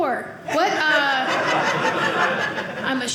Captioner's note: audience laughing